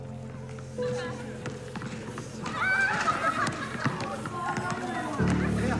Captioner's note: children laughing; person speaks foreign language